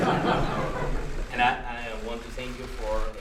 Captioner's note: laughter